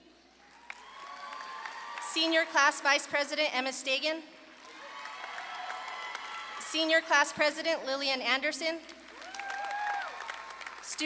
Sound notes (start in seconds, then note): 0.4 audience claps and cheers; 4.5 audience claps and cheers; 8.8 audience claps and cheers